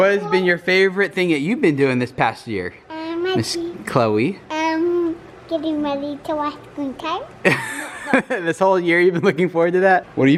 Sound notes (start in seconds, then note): 7.4 laughs